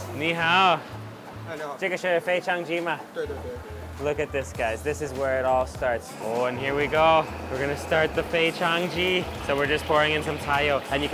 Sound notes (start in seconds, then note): 0.3 speaks in a foreign language; 1.4 chef speaks in a foreign language; 2.2 speaks in a foreign language; 3.1 chef speaks in a foreign language; 10.0 speaks in a foreign language